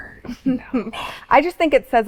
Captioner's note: giggles